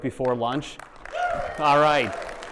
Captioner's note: attendees cheering and applauding